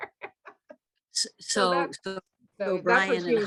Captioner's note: laughing